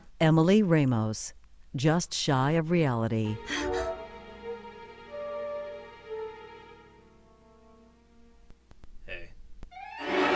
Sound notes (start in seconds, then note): 3.6 gasps; 10.1 dramatic music